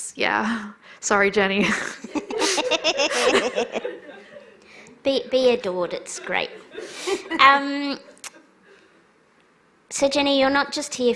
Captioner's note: laughter